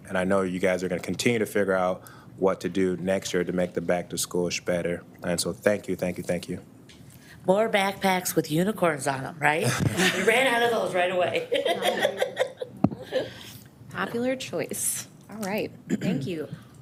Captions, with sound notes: And I know you guys are gonna continue to figure out what to do next year to make the Back to School Bash better. And so thank you, thank you, thank you. - More backpacks with unicorns on 'em, right? We ran out of those right away (laughs). - Popular choice. All right, thank you.